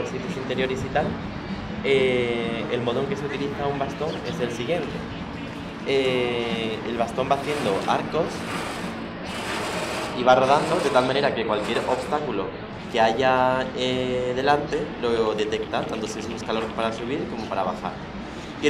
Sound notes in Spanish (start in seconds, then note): 8.0 ruido del bastón contra el suelo